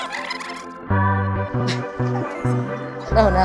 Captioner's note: chuckles